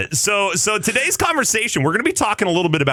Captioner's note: laughing